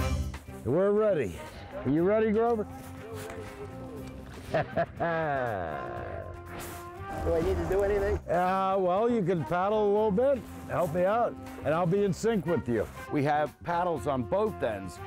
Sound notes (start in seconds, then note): 4.2 chortles